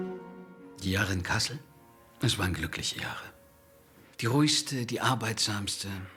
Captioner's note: speaking in foreign language